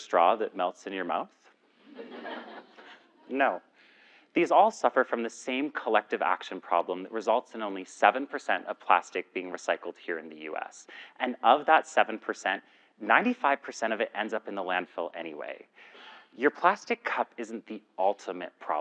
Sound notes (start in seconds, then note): 1.9 laugh